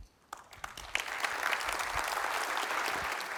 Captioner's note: applause